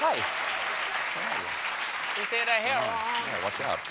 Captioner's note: applause